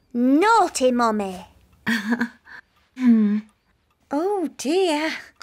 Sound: laughs nervously; chuckles

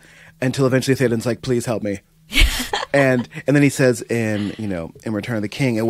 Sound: laughter

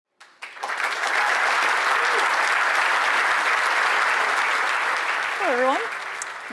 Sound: applause

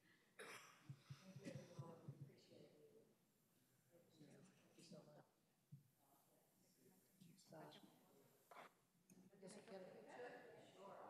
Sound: laughter

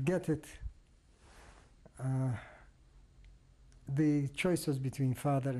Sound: pauses for 3 seconds

